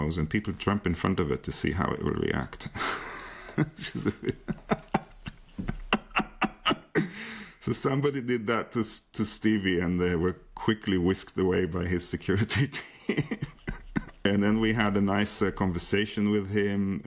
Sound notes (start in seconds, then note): 2.6 laughing; 12.4 laughs